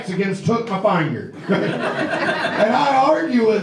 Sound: audience laughs

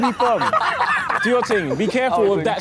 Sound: laughing

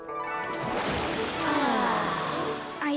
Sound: sighing

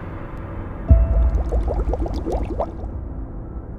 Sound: bubble-bubble-bubble

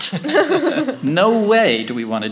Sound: laughing

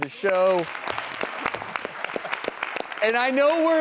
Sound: audience applauding

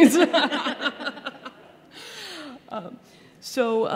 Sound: laughter

